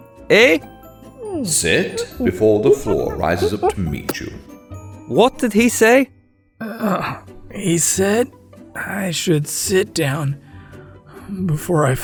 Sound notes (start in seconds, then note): 2.2 ape noises; 8.1 groan